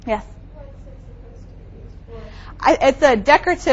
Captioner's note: faintly speaking